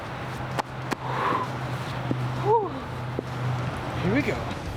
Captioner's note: exhales hard